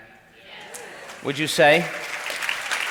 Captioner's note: crowd exclaims approvingly